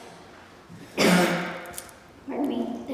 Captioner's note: coughs